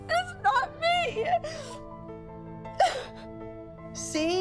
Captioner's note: sobbing